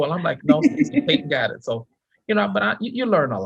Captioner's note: laughing